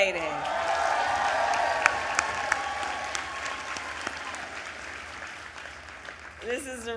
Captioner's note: applause